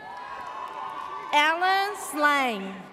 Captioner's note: audience cheers